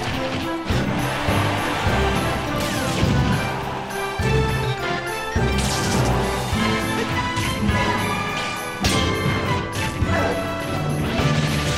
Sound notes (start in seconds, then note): 10.3 grunt